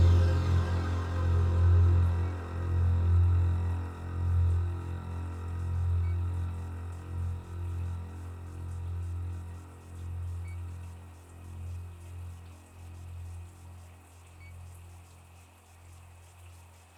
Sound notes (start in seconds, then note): 6.7 distant running water; 6.7 machinery quietly beeps